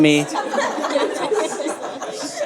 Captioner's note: audience laughing